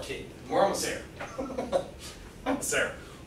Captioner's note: chuckles